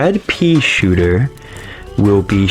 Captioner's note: inhales Oxygen